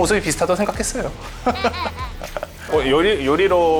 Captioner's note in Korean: 웃음